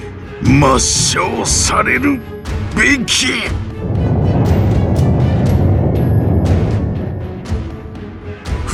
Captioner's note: uuuuuuuggggghhhh